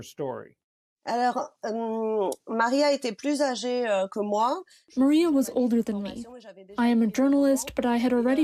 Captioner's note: through translator